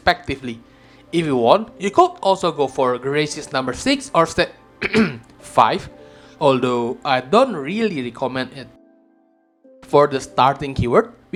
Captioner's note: ahem